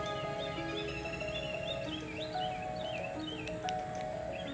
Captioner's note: birds Chirping